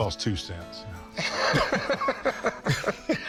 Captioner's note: Rick laughs